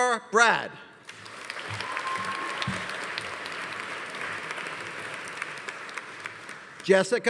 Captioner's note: audience applauding; audience cheering